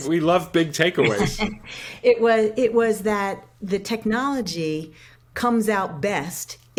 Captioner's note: laughs